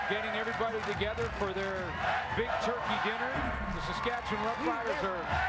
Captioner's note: crowd din